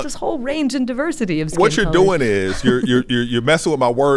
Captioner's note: chuckles